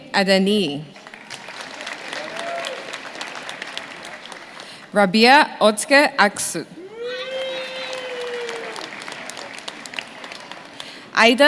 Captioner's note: names being called